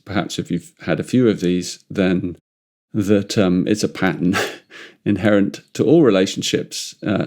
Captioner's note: chuckles